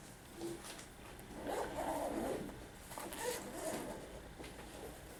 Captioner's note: backpack zipping up